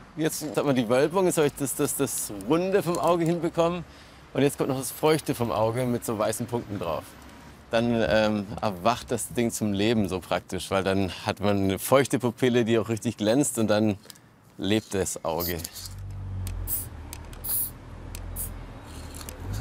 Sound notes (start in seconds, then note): 17.4 spraying noises